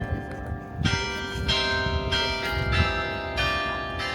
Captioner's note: ringing bells